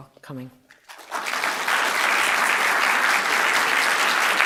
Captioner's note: applause